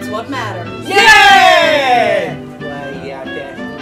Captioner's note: cheers